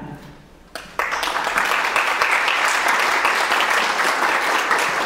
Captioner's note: audience clapping